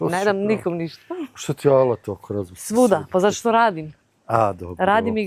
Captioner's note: none